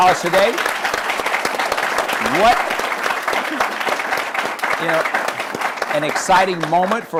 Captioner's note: applause